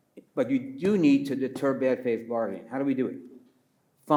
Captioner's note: pats table